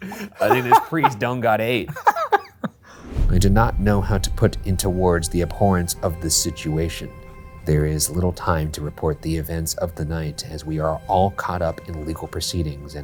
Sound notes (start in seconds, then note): 1.6 laughs